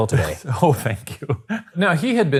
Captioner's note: laughing